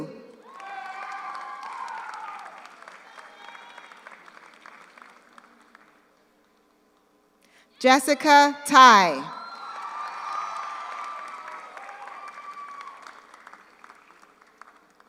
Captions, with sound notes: (audience cheers) (audience applauds) Jessica Thai. (audience cheers) (audience applauds)